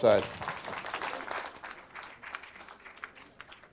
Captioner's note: applause